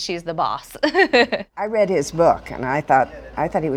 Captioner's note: laughs